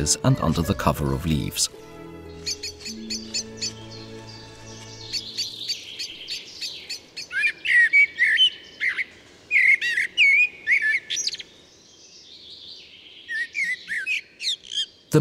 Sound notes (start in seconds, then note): 1.8 sounds of nature